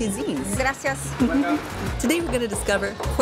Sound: in Spanish

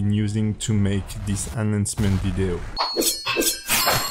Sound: exploding; blades clashing

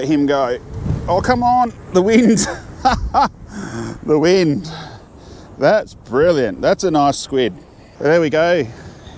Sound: laugh

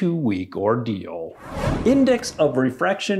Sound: whooshing

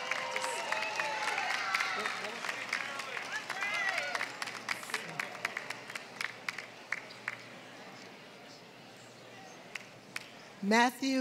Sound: applause

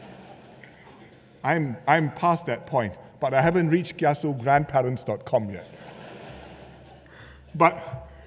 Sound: laughter; laughter

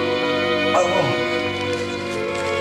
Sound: groans

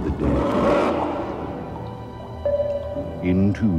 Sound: water drips

